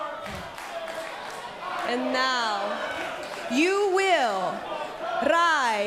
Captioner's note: fans chanting